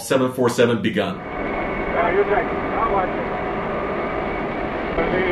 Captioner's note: background talking